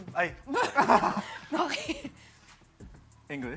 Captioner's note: laughter